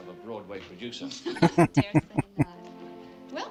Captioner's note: laughing